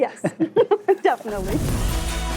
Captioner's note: both laughing